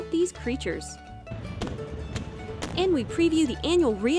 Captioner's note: boom